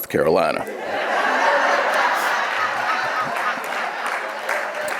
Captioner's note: audience laughing